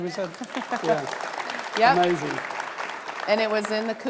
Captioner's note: audience applauding